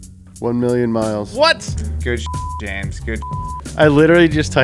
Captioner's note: beep